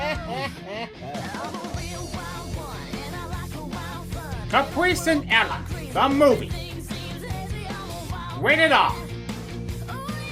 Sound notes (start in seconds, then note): 4.5 imitating Gilbert Gottfried